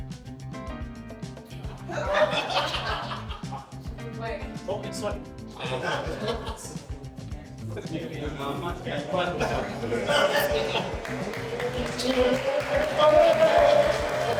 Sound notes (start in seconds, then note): 0.0 clapping; 1.5 laughing; 9.4 clapping